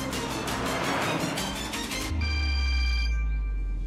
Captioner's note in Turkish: Telefon çalıyor